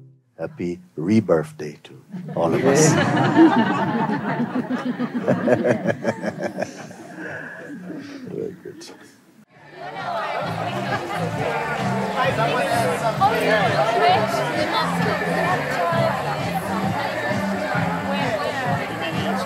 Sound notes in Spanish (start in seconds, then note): 2.1 risas; 5.2 Mooji se ríe; 10.5 charla y música